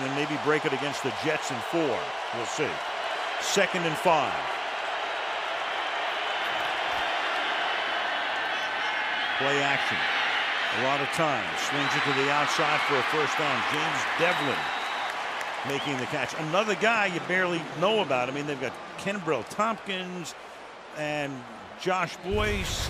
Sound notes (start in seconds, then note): 4.9 cheering